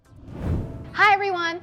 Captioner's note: screen swooshing